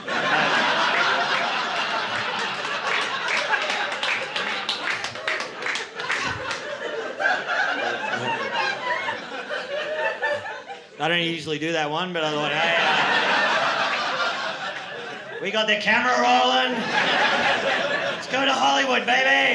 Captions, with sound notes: [LAUGHTER] [APPLAUSE] I don't usually do that one, but I thought, "Hey, we got the camera rolling. Let's go to Hollywood, baby."